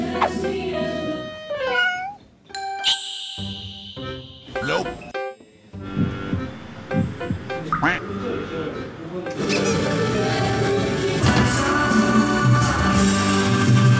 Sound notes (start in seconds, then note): 5.8 heart pounding